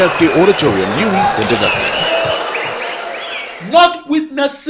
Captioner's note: wild applause and cheering for 22 seconds